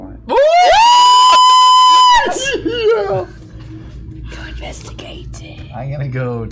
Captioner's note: yelling; whispering